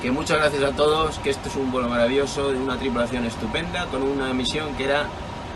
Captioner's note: speaking in a foreign language